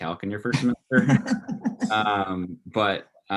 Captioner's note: laughs